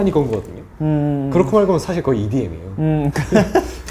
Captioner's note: haha